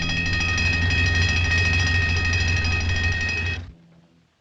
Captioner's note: bell Ringing